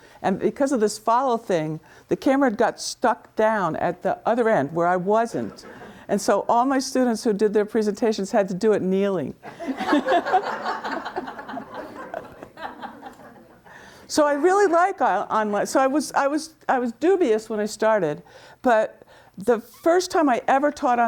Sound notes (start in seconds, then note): 9.5 audience laughing; 9.5 laughs